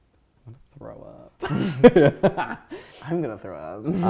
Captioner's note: laughing